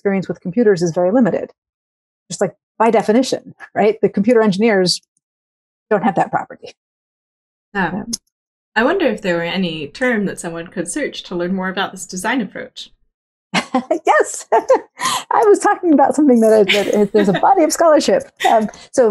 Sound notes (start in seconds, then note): 16.4 laughs